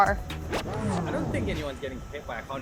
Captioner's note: record scratching